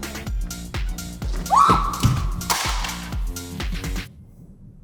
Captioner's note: scream